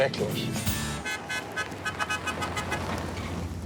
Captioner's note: horn honking